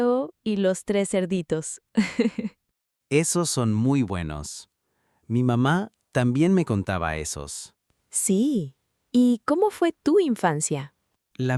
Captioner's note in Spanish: risas